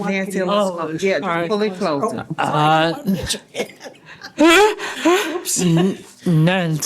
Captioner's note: laughter